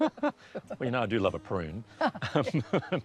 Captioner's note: chuckles